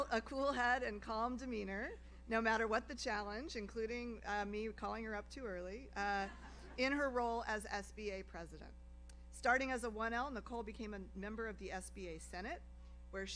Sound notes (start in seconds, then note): 6.3 audience laughs